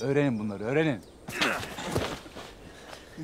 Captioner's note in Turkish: Düşme sesi